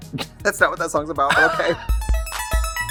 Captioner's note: Katya laughs; laughs; synth music sting